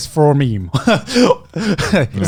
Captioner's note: laughs